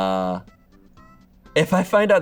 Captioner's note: none